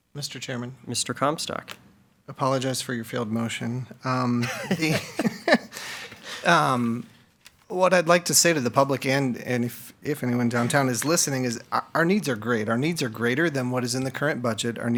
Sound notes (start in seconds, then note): 4.4 board members laugh